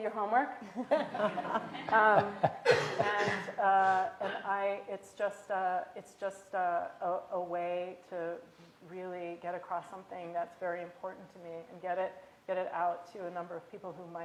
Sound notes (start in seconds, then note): 3.6 laughter